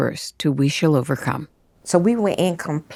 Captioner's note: soundbite of archived recording